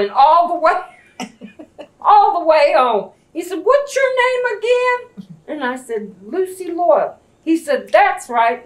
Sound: laughter

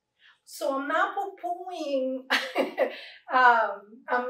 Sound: laugh

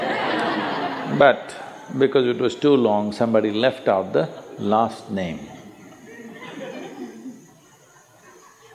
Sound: laughter; laughter

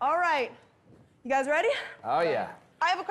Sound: none

